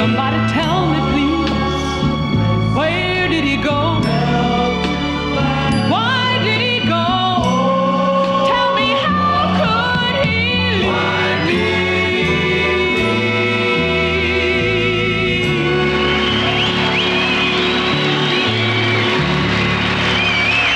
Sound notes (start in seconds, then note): 15.5 audience cheers